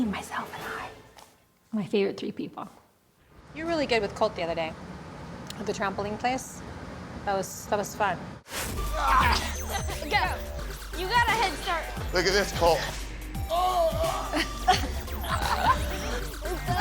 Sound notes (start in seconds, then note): 13.5 grunts; 14.3 laughter